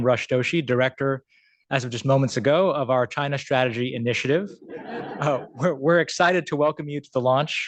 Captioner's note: laughter